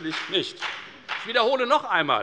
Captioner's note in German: Beifall bei der FDP